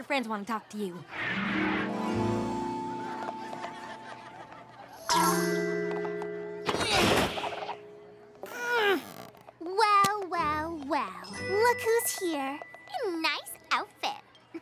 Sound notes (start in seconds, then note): 3.6 grunts